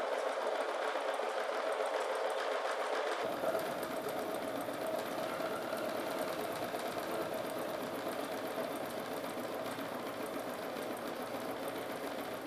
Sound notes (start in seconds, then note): 1.9 sewing machine whirring